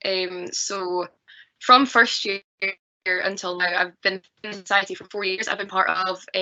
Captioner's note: audio distorts 24.25